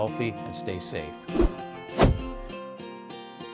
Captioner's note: air whooshing; lighthearted music